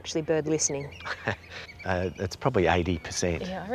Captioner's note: chuckles